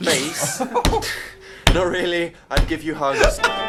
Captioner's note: laughter; plays keyboard